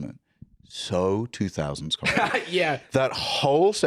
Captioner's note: laughs